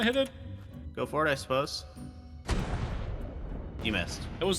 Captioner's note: cannon shot noise